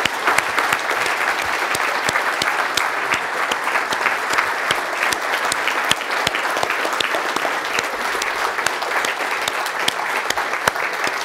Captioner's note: applause